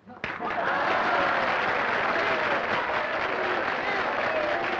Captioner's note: applause and cheering